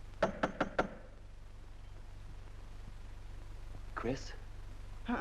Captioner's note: knock at door